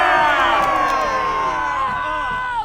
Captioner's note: cheers